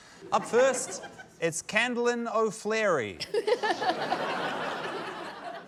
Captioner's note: laughter